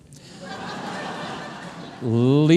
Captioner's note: audience laughing